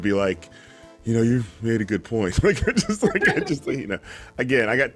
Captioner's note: laughing